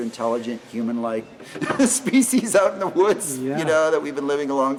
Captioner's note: laughing